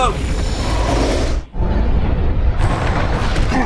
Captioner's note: rumbling; grunts